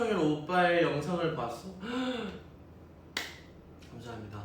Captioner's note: gasps